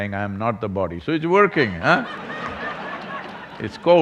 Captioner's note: laughter